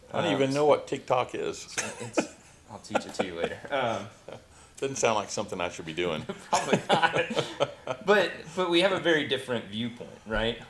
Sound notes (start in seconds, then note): 2.8 laughs; 6.3 both laughing